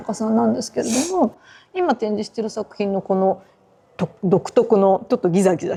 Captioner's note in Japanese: 鼻息